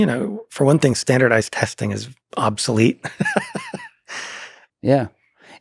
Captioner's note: laughs